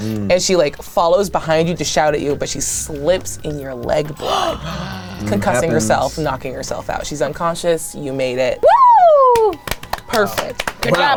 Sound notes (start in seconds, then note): 4.1 group gasps; 9.2 hands clapping